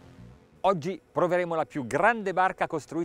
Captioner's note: speaking in foreign language